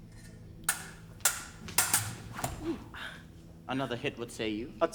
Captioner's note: swords clang